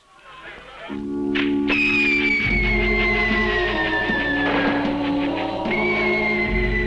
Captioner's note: reverent music; fireworks whistling